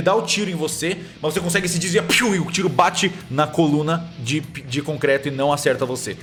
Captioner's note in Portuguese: piu